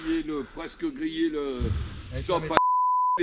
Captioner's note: beep